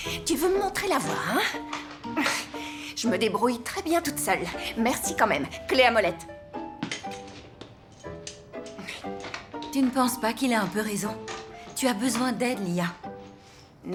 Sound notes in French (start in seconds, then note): 8.7 soupirs